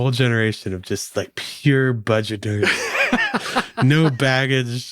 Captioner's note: laughing